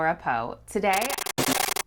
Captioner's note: glitch / Static